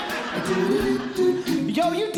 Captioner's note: audience Laughing